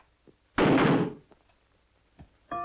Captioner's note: gunshot